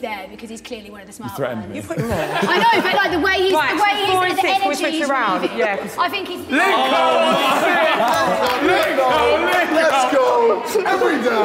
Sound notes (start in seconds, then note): 4.9 Sidemen laughing